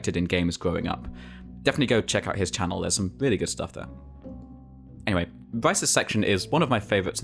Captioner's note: none